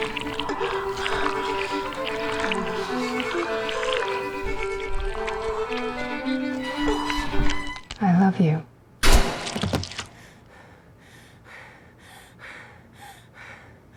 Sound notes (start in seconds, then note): 6.0 choking; 9.0 gunshot; 12.4 breathing heavily